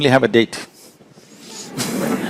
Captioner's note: laughter